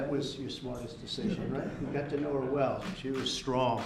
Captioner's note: laughter